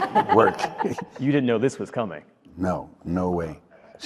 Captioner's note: laughter